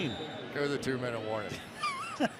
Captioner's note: whistle blowing